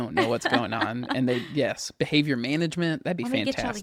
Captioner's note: laughs